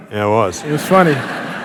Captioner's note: laughter